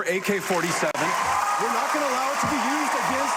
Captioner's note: applause